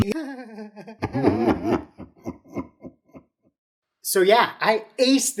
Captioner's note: sobs with demonic voice sobbing as well; laughs